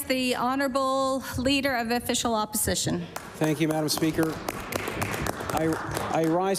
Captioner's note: applause